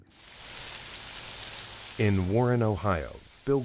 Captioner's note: water spraying